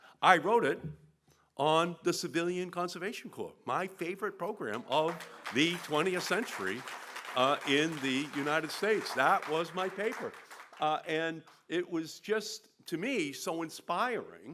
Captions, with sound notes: I wrote it on the Civilian Conservation Corps. My favorite program of the 20th century in the United States. (APPLAUSE) That was my paper. And it was just, to me, so inspiring